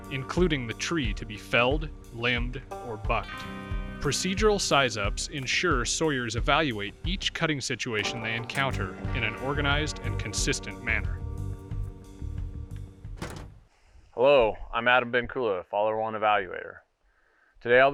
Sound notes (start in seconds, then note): 11.5 door rattling; 11.5 lively music continues